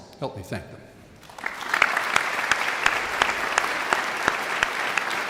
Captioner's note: audience applauding